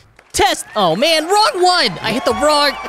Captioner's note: crowd cheering